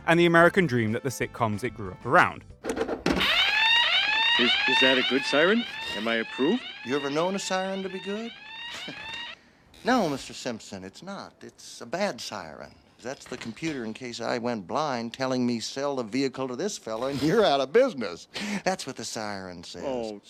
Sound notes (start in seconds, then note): 3.2 alarm blaring; 8.6 Cowboy Bob softly chuckles